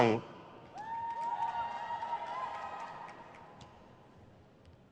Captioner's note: crowd cheers